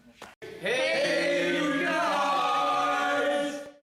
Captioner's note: crowd